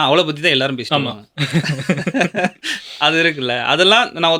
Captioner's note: laughter